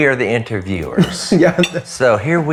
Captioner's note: chuckles